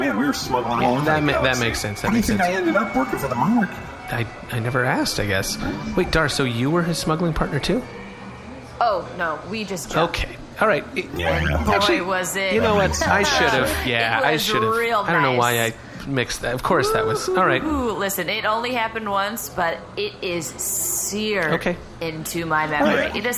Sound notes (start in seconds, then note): 11.1 laughs; 17.3 gleefully